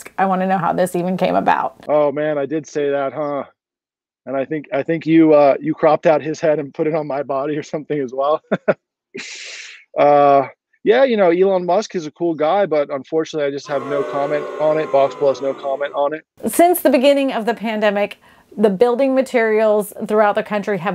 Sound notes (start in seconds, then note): 8.0 laughs